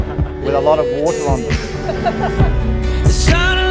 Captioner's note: people laughing